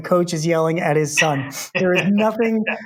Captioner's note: laughing